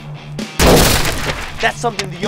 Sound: crash

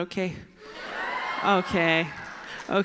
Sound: cheers

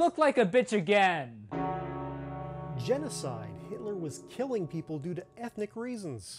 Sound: bell tolls

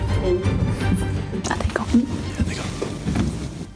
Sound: whispering

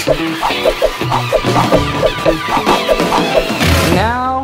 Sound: lively music; cartoonish whooshing

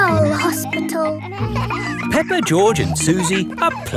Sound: kids laughing

